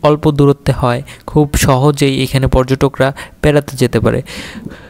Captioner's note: breathing roots